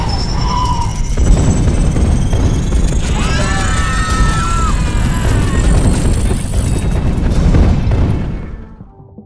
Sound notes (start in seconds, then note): 3.0 screaming